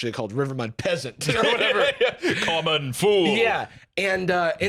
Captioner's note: laughs